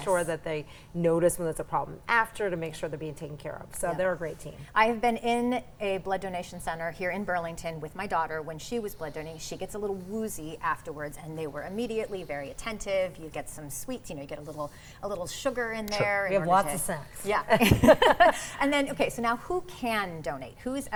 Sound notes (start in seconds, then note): 17.4 laughs